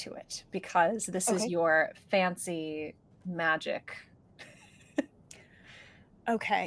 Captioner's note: chuckles